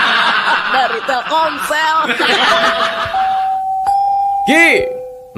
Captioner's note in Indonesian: tertawa